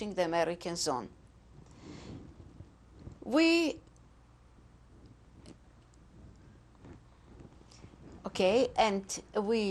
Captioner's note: pauses for 7 seconds